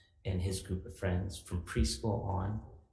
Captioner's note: none